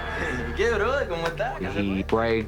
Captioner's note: speaking spanish